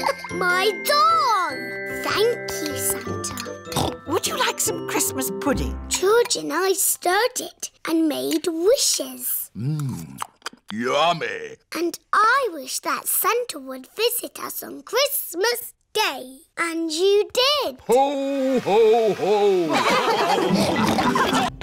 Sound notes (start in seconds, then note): 0.0 laughs; 3.7 snorts; 19.6 all laugh